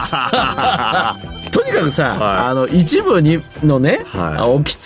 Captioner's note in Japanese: 笑い